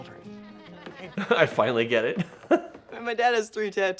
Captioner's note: laughs